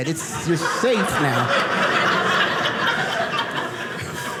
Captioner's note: audience laughing